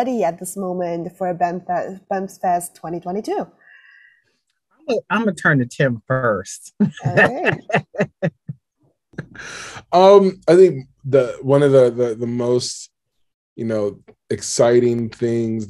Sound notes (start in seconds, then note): 9.0 laughs